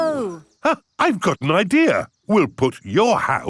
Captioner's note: gasps